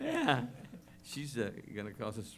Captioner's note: laughter